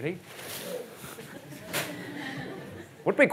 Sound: audience laughs

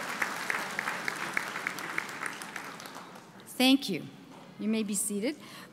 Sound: applause

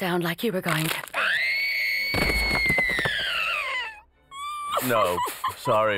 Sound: screams

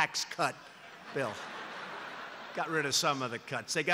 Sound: laughter

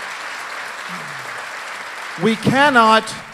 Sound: applause

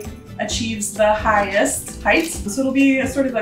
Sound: measuring tape clicks

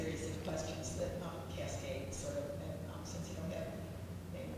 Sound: speaks quietly

